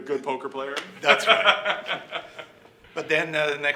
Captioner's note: laughing